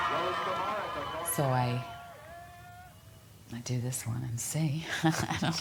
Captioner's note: laughs